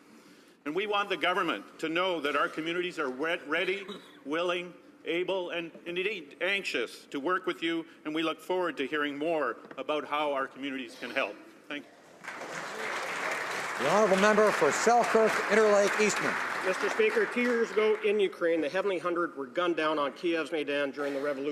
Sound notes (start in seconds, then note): 15.5 some Applause